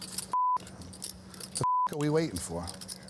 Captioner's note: beep